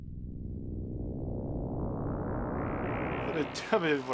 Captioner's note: game over sound